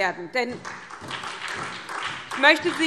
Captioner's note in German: Beifall SPD